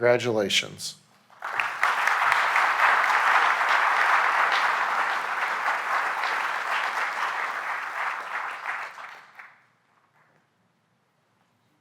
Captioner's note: applause